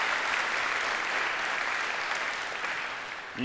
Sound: applause

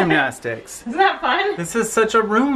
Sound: laughs

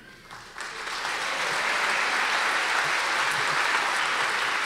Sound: audience applause

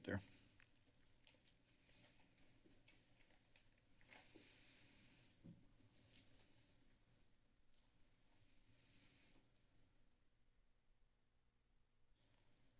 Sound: silence

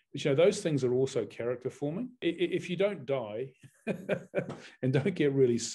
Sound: chuckles

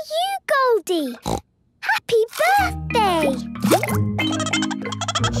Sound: snorting; Goldie giggling

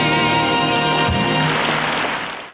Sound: applause

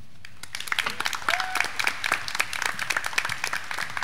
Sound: graduands clapping

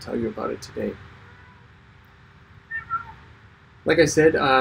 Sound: cat meows

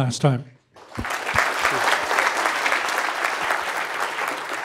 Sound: applause

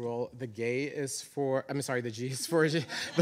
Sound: chuckling; audience chuckling

